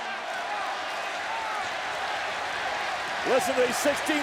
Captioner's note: audience applauds and cheers